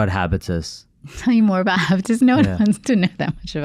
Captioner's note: laughs